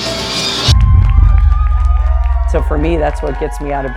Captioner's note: crowd cheering